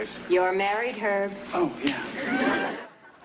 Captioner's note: laughter